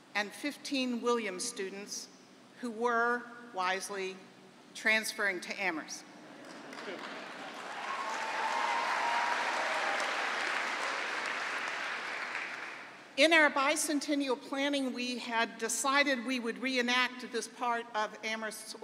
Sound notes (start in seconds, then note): 8.3 applause; 8.3 laughter